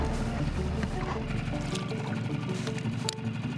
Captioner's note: boat motor hums; clip clicks